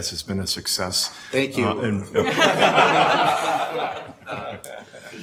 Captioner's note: everyone laughs